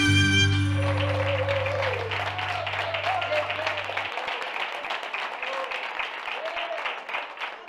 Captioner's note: applause